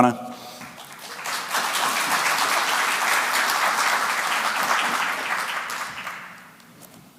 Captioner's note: applause